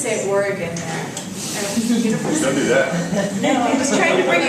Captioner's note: laugh